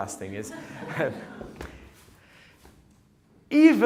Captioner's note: audience chuckles